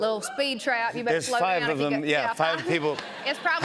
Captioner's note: light cheering